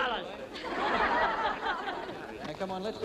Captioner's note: crowd laughing